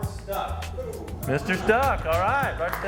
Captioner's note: clapping